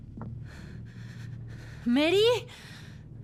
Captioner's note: respiración agitada